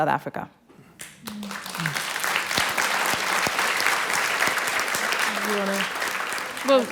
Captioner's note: applause